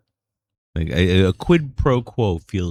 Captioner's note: uh